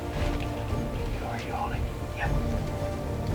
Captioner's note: whispering